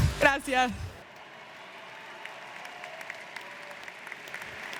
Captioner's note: audience cheers